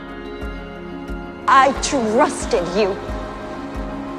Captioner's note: voiceover